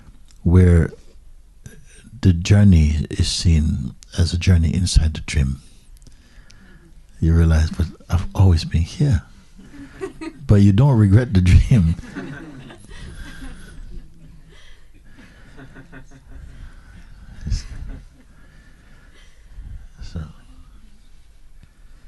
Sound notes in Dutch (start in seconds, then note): 14.8 gelach